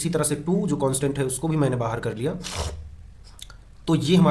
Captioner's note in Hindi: नाक से की जाने वाली आवाज़